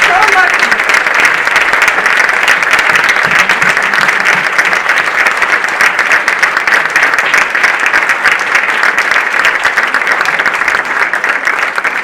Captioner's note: audience applauding